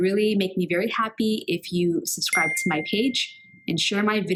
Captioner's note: bell ringing